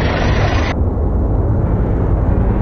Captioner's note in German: Ferne, leise Motorengeräusche; Lautes Motorendröhnen